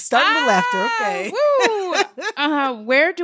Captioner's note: laughter